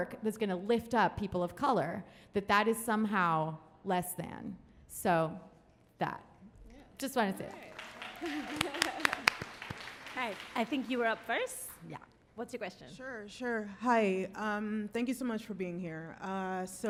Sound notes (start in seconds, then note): 7.4 applauding